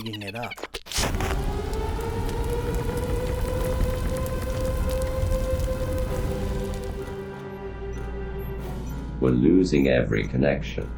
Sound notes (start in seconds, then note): 1.0 klaxons blare, fire blazing SFX; 6.7 Robotic voice